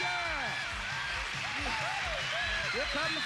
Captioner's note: cheers and applause